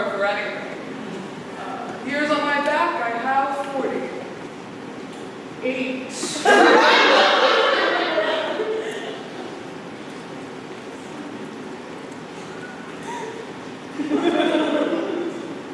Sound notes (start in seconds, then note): 6.4 laughter